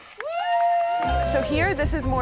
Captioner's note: cheering